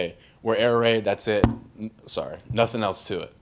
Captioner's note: hits mic